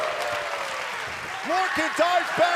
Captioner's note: crowd cheering